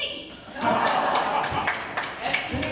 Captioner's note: ensemble laughs, applauds